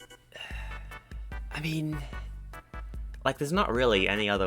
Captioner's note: sigh